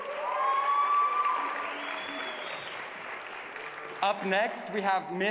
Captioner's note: applause